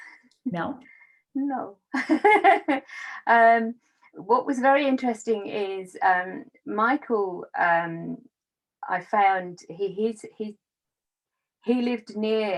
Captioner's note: laughs